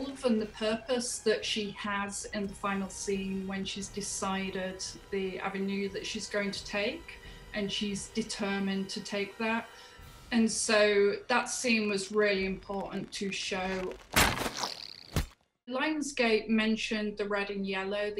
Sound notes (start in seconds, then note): 14.3 arrow thumping; 14.3 bowstring thrumming